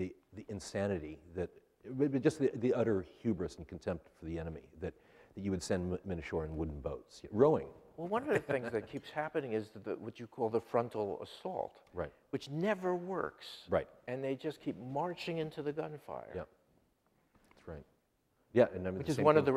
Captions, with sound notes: The insanity, just the utter hubris and contempt for the enemy, that you would send men ashore in wooden boats, rowing. (laughs) - One of the things that keeps happening is what you call the frontal assault, which never works. They just keep marching into the gunfire. - Yep, that's right.